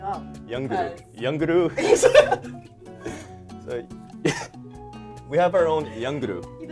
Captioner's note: both laugh